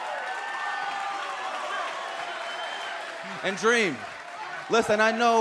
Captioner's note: crowd cheering